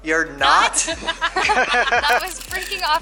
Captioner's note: laughter